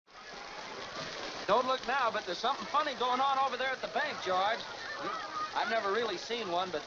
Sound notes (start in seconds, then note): 0.1 people chattering